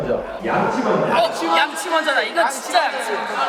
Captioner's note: all shout out brush first